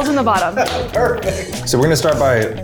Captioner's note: laughs